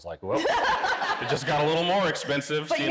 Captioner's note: laughing